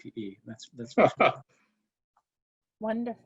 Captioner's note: chuckles